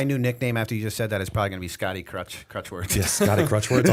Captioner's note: laughter